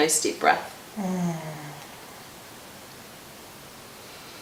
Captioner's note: exhales